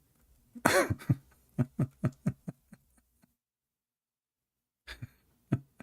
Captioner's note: Ketawa